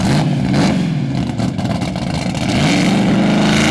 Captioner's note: car revving